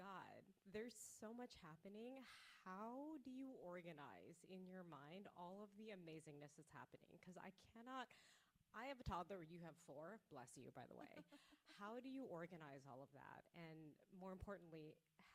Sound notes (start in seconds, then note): 11.1 author laughs